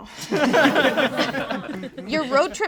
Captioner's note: all laugh